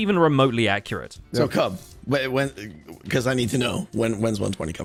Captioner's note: stammers